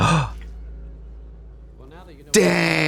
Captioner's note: Katya gasps